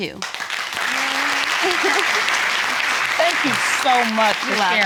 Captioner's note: audience applauding